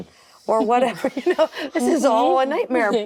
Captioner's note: laughing